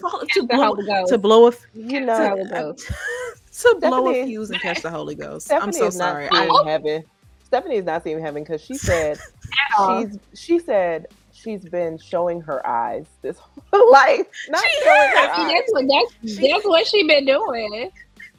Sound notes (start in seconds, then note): 1.1 stammering; 2.3 laughing; 17.6 laughing